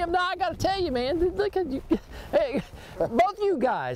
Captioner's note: chuckling